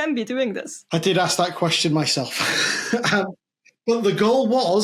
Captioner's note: laughs